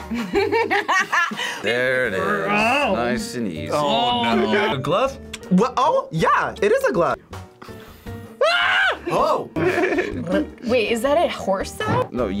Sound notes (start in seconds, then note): 0.2 laughs; 8.4 screams; 9.5 laughs